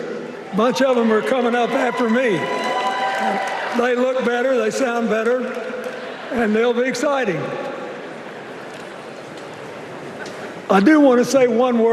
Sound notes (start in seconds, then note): 2.2 cheers and applause